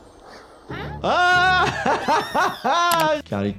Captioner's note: laughs